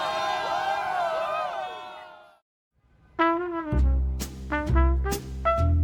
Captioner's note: crowd screaming; jazz music